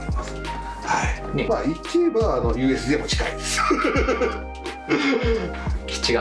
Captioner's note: laughs